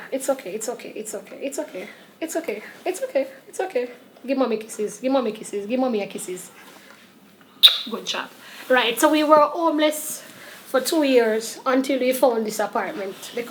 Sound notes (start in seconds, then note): 7.6 lips smacking